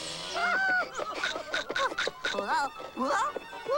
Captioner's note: screaming, snake biting